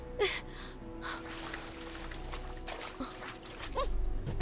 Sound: wading in water

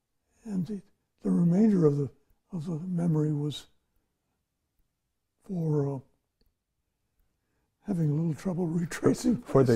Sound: laughs

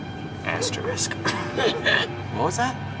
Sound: coughs

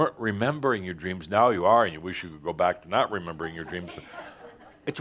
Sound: some chuckles

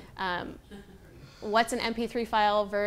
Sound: people laughing

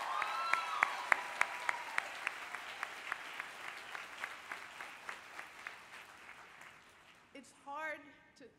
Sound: applause

